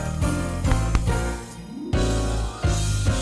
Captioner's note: tapping; festive music continues